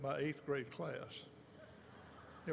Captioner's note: laughter erupts